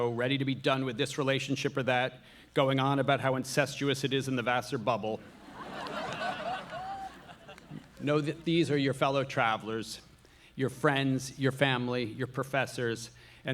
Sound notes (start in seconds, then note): 5.2 audience laughing